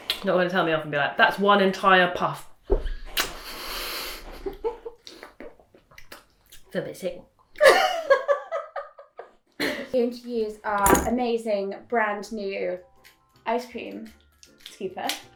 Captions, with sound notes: Not gonna tell me off and be like, "That's one entire puff"? (laughter) I feel a bit sick. (laughter) - We're going to use our amazing, brand new ice cream scooper.